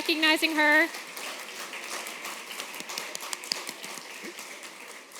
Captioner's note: applause